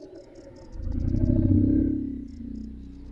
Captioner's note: eerie sounds